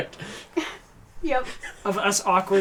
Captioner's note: laughs